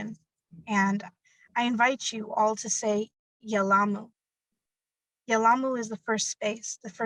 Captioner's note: speaking in a foreign language